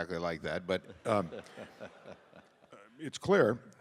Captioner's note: audience laughing; laughs